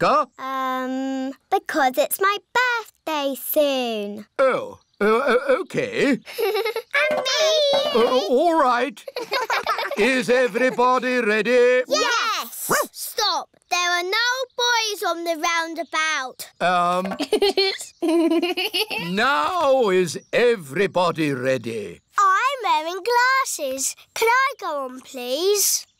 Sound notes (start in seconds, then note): 5.8 laughs; 9.0 laughter; 12.4 barks; 16.9 laughs